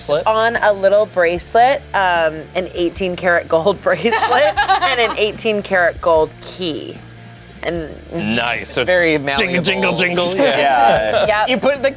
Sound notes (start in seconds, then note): 4.0 laughs